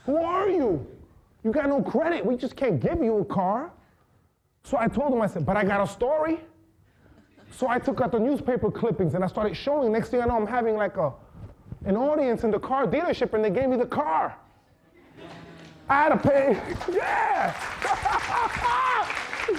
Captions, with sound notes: Who are you? You got no credit, we just can't give you a car. So I told them, I said, but I got a story. So I took out the newspaper clippings and I started showing them. Next thing I know, I'm having like a audience in the car dealership and they gave me the car. (audience laughing and applauding) Yeah!